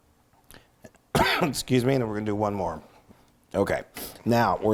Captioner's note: cough